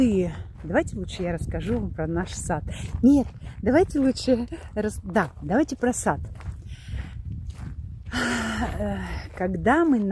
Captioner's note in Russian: вздыхает